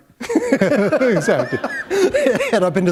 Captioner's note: laughter